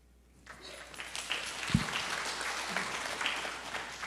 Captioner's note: audience applauds